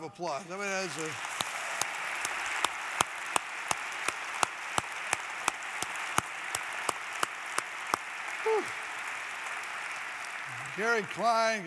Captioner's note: applause